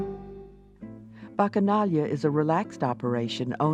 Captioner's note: jazz ensemble music; voiceover